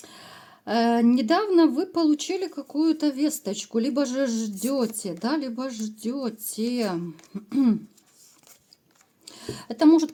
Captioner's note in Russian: откашливается